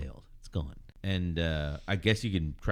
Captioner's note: uh